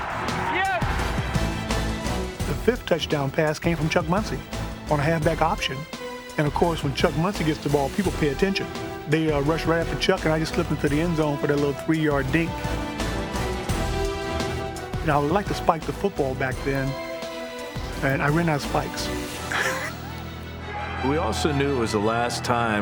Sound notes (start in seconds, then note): 19.4 laughs